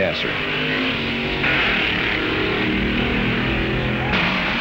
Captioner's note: hot rods revving